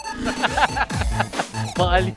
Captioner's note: laughs